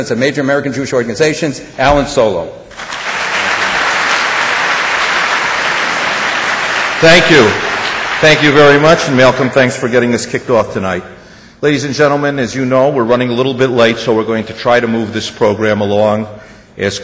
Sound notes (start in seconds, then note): 2.7 audience applause